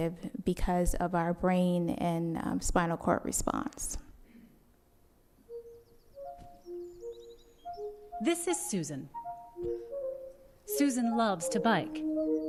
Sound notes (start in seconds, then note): 5.4 birds chirping; 5.4 sweet music